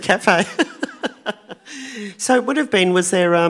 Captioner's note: laughing